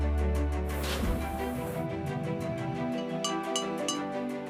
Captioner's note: clinking